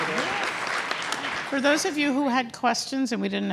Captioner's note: applause